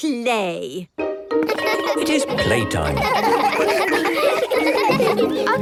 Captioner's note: laughter